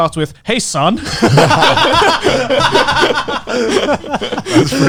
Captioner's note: laughing loudly